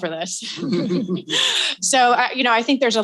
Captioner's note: all chuckles